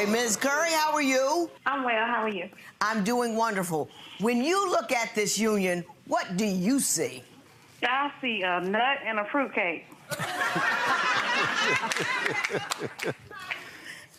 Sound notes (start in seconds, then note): 10.1 audience laughing